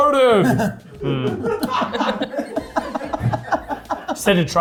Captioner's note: cast members laughing